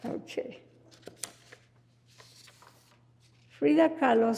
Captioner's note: paper rustling